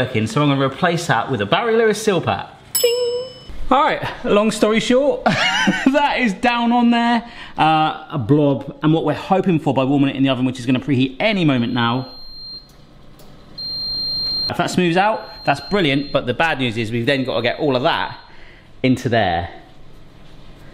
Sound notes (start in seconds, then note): 13.5 beeping